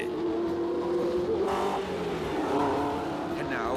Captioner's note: engine accelerating